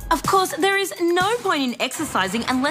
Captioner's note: none